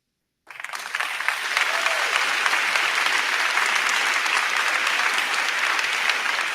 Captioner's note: crowd cheering; crowd clapping